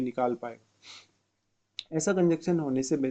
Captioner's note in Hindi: नाक से की जाने वाली आवाज़